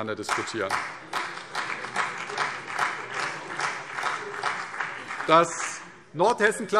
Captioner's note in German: Beifall CDU und BÜNDNIS 90/DIE GRÜNEN